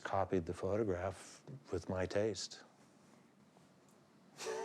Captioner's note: chuckles